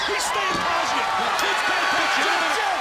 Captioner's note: crowd cheering